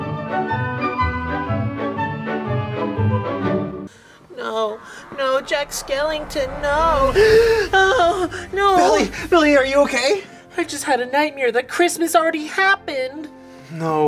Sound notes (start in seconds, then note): 0.0 playful music; 7.0 gasps